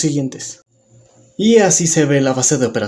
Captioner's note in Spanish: Silencio